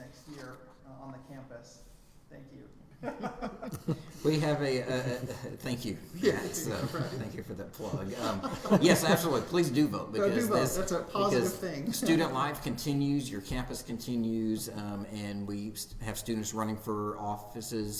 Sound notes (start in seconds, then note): 3.0 laughing; 6.9 chuckling